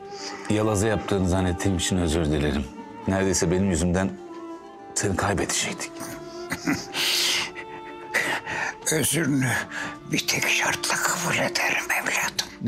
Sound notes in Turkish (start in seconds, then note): 6.4 Gülme sesi